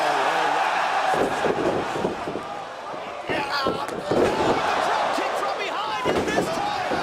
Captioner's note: crowd cheering